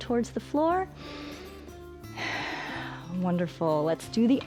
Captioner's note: inhales and exhales